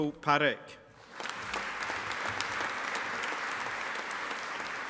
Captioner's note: audience applauding